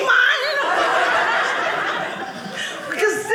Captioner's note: audience laughing